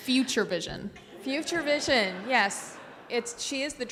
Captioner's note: audience laughing